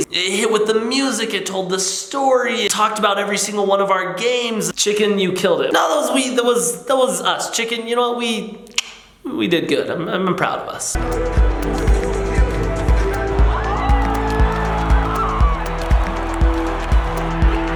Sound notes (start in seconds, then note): 8.9 clicks tongue; 10.9 electronic music playing; 14.5 crowd cheers